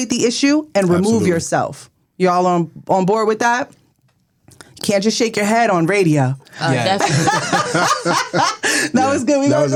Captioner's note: laughs